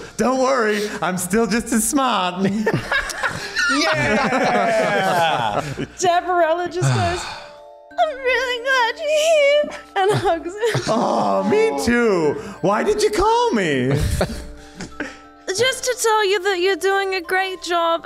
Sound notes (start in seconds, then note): 2.5 laughs